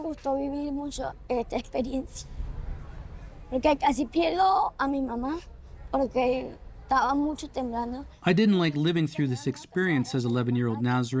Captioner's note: speaking alternate language